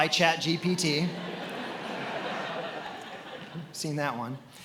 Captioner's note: attendees laughing